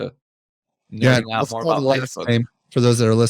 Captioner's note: chattering